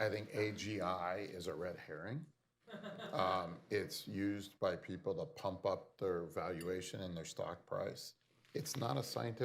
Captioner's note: laughter